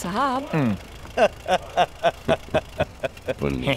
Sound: laughs

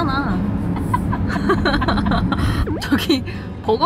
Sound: dumbfounded laughter

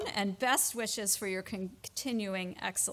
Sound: none

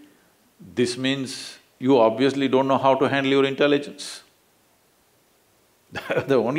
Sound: laughs

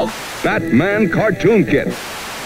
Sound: tv static

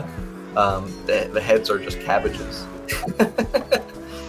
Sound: laughing

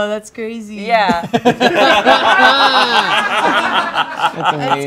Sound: group laughing

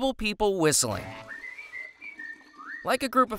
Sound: whistling

